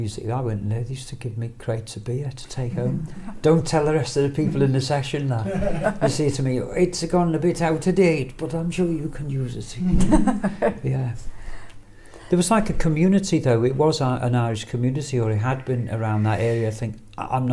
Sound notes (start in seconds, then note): 5.4 laughs; 9.9 laughs